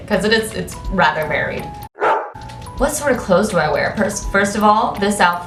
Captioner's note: dog bark sound effect